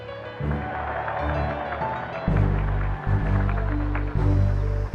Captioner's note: cheers and applause